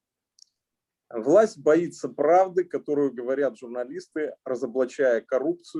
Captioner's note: speaking Russian language